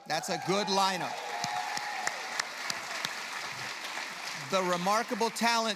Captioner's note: applause